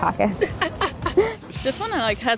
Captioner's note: laughing